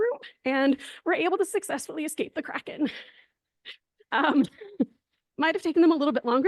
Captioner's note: laughs